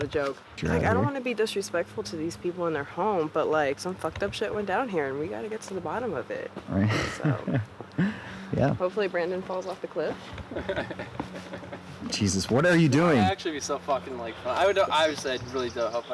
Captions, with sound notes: I don't want to be disrespectful to these people in their home, but, some fucked up shit went down and we got to get to the bottom of it. -Yeah. -Hopefully, Brandon falls off the cliff. [CJ laughing] Jesus. What are you doing? Actually, I honestly hope I wouldn't have to.